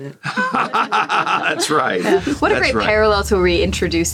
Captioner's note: Gould laughs